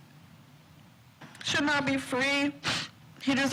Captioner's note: sniffles